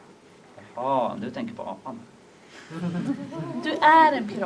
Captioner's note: laughter